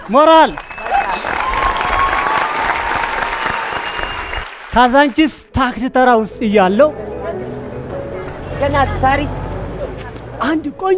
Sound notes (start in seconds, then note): 0.0 applause and scream; 6.7 crowed sound